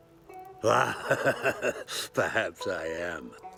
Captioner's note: laughing